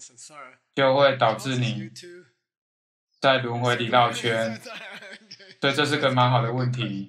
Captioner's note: laughs